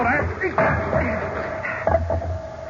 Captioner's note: knocking